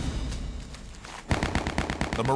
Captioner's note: gunshots